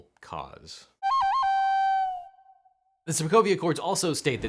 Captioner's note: loon singing